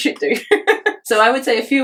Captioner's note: laughs